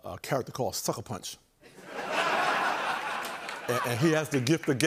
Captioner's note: laughter and applause